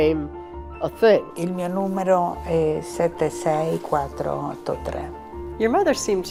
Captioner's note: speaking in foreign language